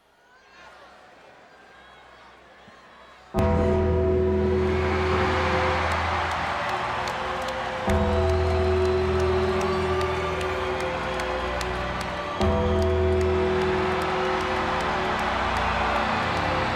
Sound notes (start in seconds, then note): 0.3 audience cheers; 3.4 ominous music; 5.8 audience cheers